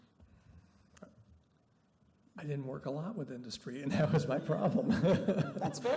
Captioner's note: laughing